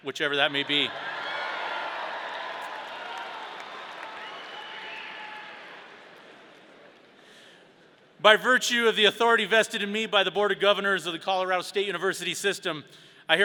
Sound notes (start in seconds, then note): 0.5 audience cheering